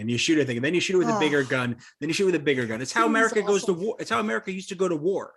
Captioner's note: sighs